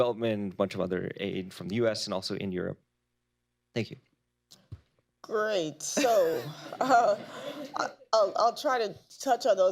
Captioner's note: laughter